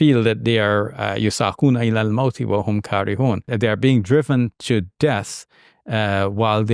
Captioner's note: speaks in Arabic